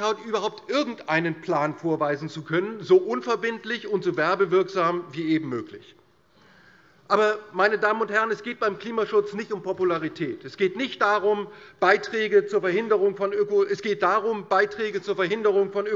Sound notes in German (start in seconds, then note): none